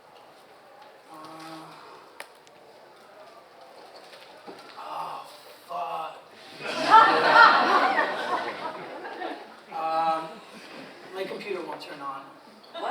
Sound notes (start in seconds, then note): 6.6 audience laughs